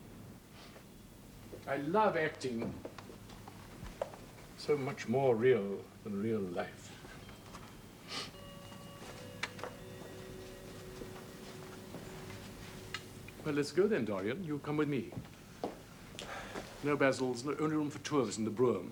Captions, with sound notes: I LOVE ACTING. SO MUCH MORE REAL THAN REAL LIFE. ( clock chimes ) WELL, LET'S GO THEN, DORIAN. YOU'LL COME WITH ME. NO, BASIL, THERE'S ONLY ROOM FOR TWO OF US IN THE BROUGHAM.